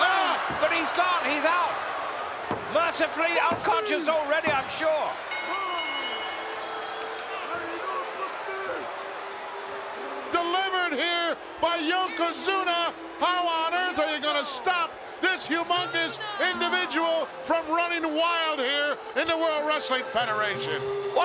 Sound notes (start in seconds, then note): 5.4 bell rings; 7.4 peaceful music